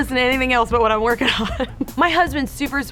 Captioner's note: laughs